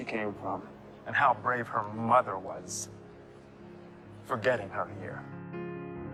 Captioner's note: voiceover